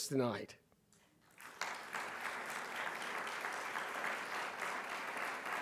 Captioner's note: audience clapping